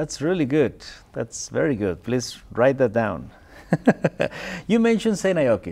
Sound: laughs

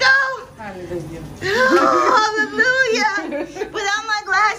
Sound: laughing

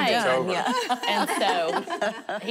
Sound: laughing

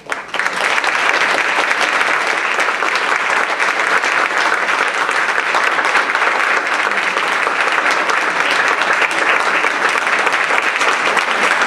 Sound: applause

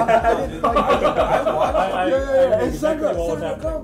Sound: laughing

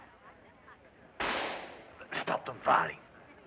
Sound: gunshot

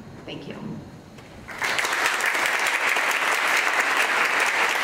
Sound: audience claps

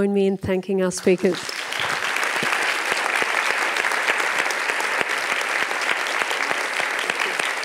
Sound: applause

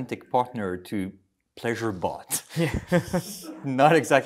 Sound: laughter

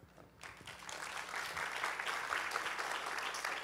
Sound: applause

